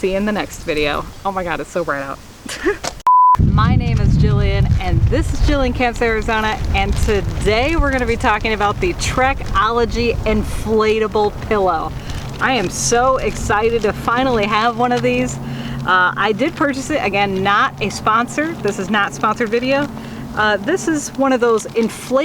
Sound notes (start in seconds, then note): 2.5 laughs; 3.0 beep